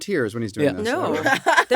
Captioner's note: laughs